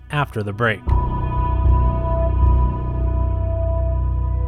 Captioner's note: gong